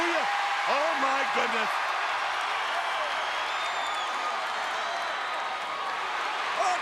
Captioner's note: crowd cheering